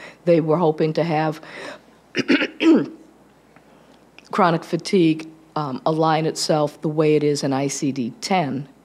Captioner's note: clears throat